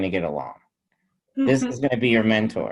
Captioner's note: chuckles